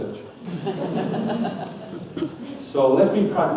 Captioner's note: audience laughs